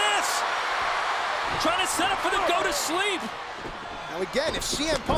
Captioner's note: applause